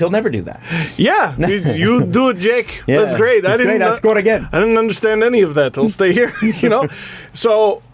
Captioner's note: russian accent